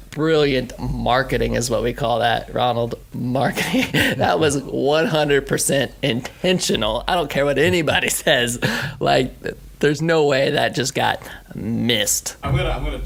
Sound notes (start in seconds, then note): 3.4 he laughs